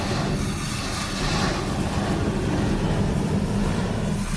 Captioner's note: rumbling sounds